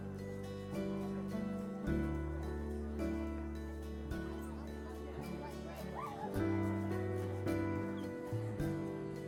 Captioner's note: indistinct chatter